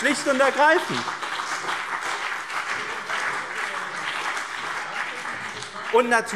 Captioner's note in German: Beifall BÜNDNIS 90/DIE GRÜNEN und CDU